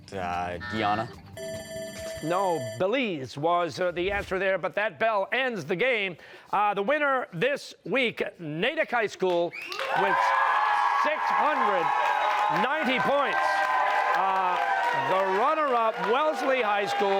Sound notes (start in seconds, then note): 1.4 bell ringing; 9.7 cheers and applause